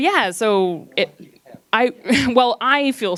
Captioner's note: gentle speaking; laughs